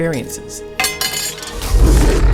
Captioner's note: clank